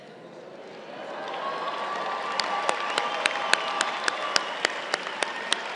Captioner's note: crowd cheering and applauding